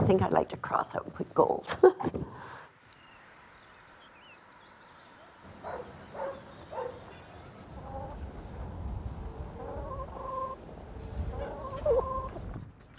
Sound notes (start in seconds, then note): 5.6 dog barking; 7.4 chickens clucking